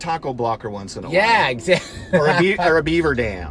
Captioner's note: laughs